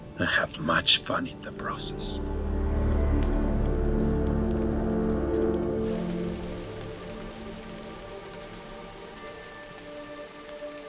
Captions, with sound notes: And have much fun in the process. (dramatic music) (fire crackling) (gentle music)